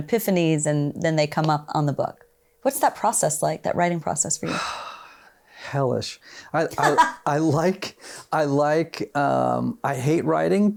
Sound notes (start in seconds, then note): 4.4 sighs; 6.7 laughs